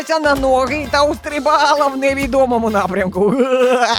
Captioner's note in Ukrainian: сміх